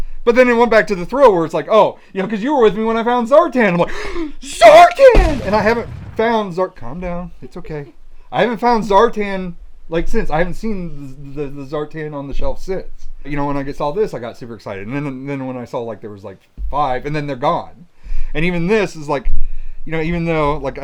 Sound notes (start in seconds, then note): 3.9 gasps; 5.0 loud explosion